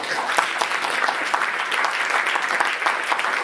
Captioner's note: applause